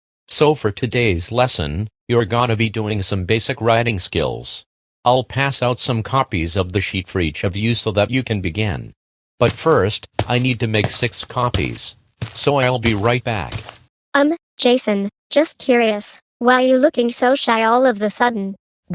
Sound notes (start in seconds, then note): 9.4 footsteps